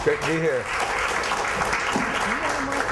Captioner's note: applause